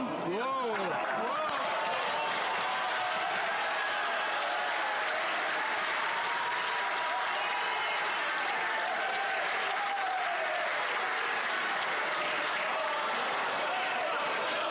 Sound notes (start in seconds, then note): 4.2 some Applause